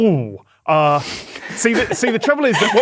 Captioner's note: laughing